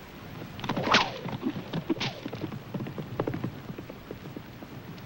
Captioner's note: whip cracking